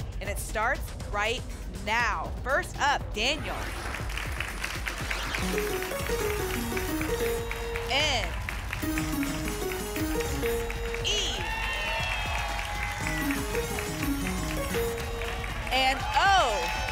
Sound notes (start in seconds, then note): 4.1 applause; 5.4 pinging sounds; 8.9 pinging sounds; 12.9 pinging sounds